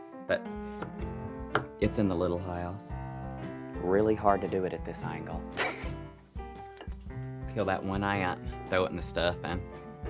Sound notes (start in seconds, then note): 5.6 laughing